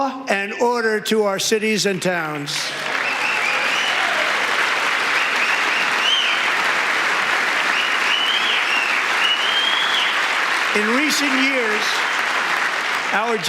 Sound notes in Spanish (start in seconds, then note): 8.5 aplausos